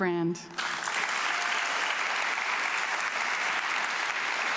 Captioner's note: audience clapping